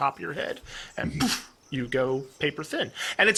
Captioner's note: poof